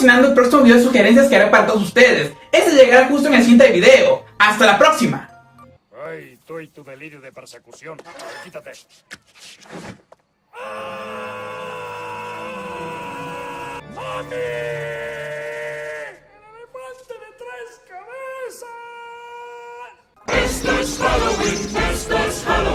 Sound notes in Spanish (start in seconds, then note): 10.5 grito; 10.6 gemido